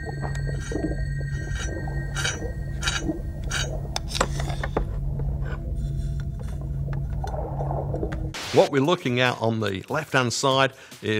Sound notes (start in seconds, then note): 0.0 metal scraping